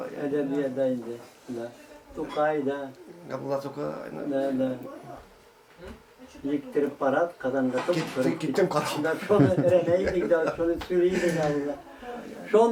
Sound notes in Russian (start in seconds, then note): 9.1 смеется